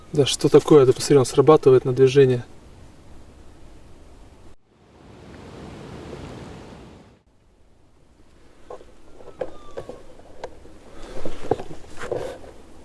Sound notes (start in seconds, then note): 4.0 knocking on wood next to us